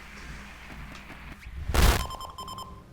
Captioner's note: static